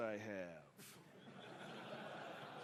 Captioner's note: laughter